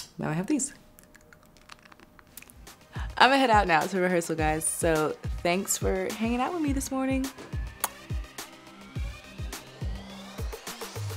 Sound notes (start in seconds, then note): 1.0 crunches; 7.7 lips smooch